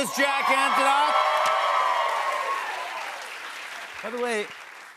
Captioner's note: cheers and applause